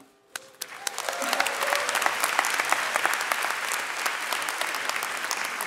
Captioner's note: audience cheering and clapping